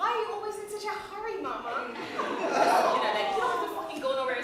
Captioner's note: laughter